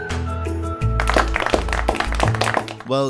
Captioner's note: scattered applause